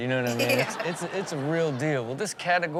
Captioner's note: audience laughs